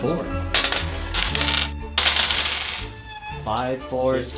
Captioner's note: dice clatter